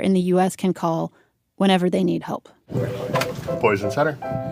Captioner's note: phone ringing